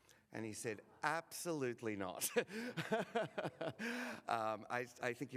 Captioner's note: laughs